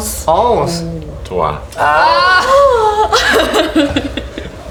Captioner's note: laughter